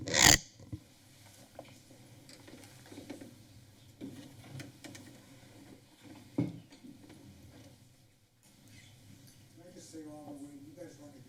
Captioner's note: silence